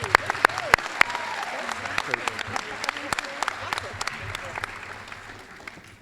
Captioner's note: applause